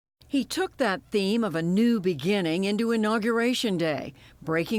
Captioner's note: voice-over